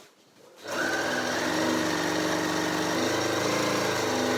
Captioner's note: sewing machine humming